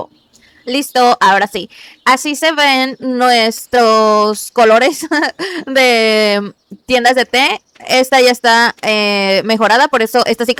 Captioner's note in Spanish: risas